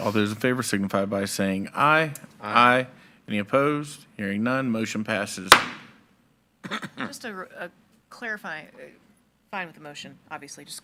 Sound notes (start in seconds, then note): 5.5 gavel thudding